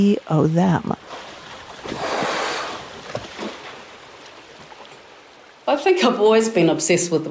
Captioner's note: water splashing; whale blowing air